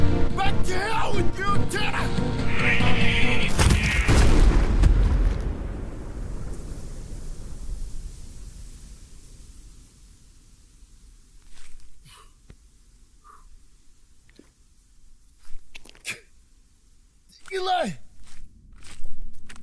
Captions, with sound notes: Back to hell with you, Uktena! [Surprised squeal] [Boulder crashes] [Loud thunderous crash] [Dust and debris settling] Eli.